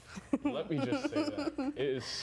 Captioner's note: laughing